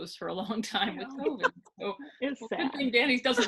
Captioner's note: laughing